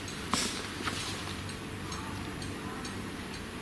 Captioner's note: light ticking